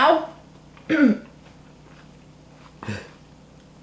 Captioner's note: coughs